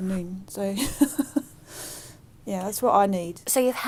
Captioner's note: laugh